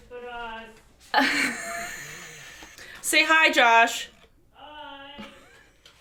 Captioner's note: laughs